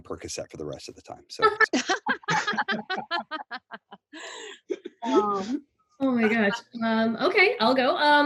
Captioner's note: everyone laughs